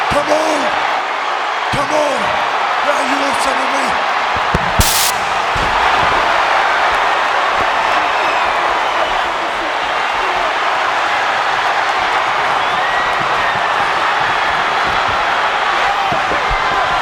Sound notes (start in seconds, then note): 5.2 crowd clamoring